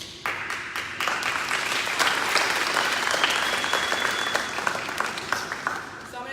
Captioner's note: applause